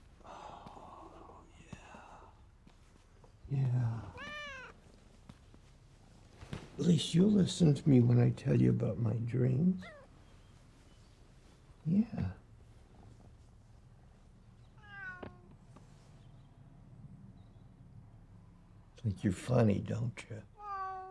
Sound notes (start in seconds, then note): 4.1 cat meowing; 14.7 cat meowing; 20.5 cat meowing